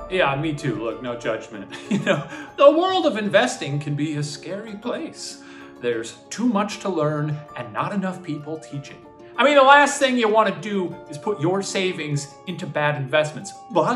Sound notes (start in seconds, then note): 1.8 laughing